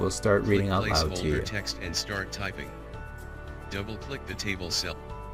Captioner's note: computer synthesized voice